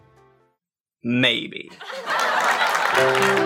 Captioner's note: laugh track